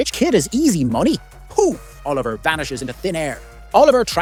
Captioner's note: poof